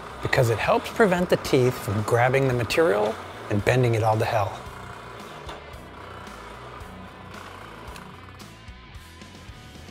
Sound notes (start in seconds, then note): 5.5 machine whirring